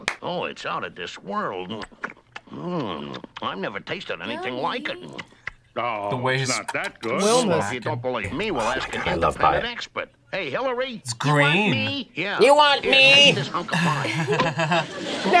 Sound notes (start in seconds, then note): 6.5 smacks lips; 13.0 both laugh